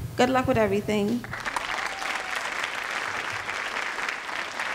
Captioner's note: crowd applauds